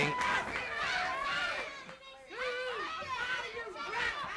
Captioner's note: crowd yelling